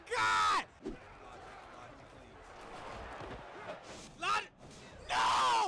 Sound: cheering and yelling

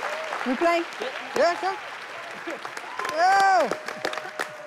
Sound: people applauding

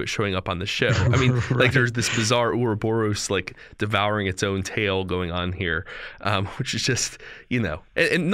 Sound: chuckle

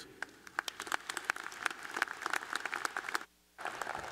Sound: applause

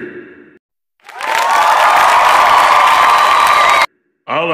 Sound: people cheering

